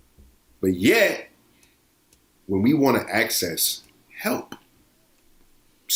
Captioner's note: none